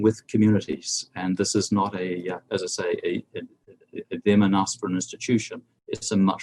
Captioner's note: murmurs